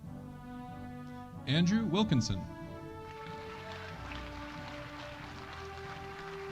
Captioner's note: audience applauding